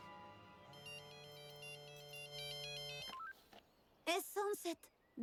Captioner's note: phone chimes